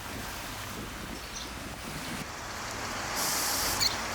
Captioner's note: birdsong, city background noise